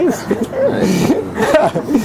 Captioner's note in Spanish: risas